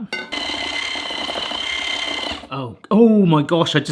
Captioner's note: whisk whirring